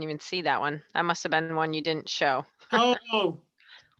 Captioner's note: laughs